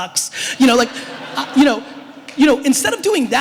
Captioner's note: audience laughter